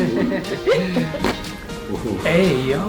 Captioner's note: laughing; patient 3 laughing; neck cracking